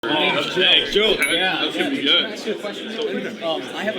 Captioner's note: crowd chatting